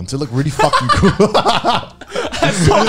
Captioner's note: laughing